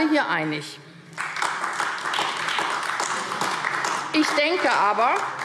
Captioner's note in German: Beifall AfD